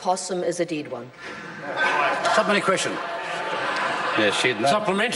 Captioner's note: laughter